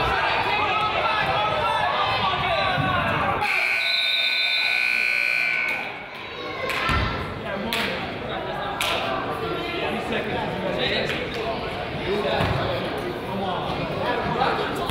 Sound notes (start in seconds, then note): 3.4 buzzer honks; 3.4 whistle blows; 9.2 crowd chatters